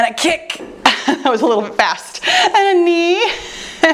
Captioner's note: chuckles; chuckles